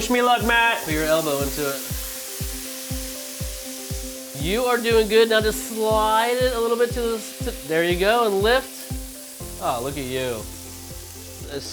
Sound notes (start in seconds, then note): 2.2 pan sizzling; 10.2 pan sizzling